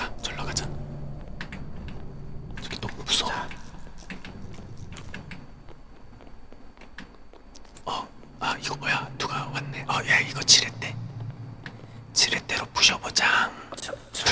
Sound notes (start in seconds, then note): none